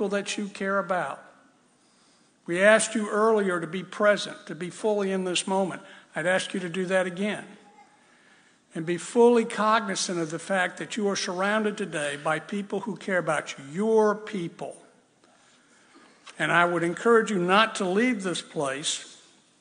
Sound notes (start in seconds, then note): none